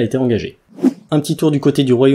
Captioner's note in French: Son de transition